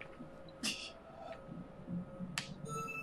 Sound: laughs softly

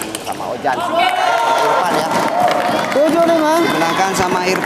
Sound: applause

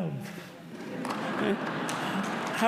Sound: laughter

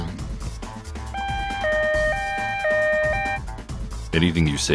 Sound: police siren

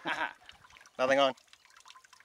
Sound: laughing

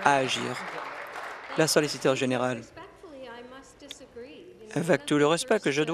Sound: applause

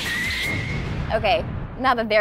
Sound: exploding

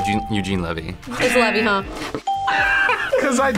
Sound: buzzer

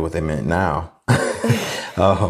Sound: both laugh

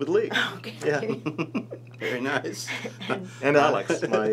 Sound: laughs

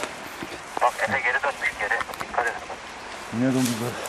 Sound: radio sounds

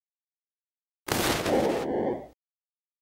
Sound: sound of alien

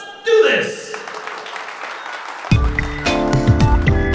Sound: applause

